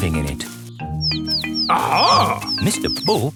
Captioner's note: chirping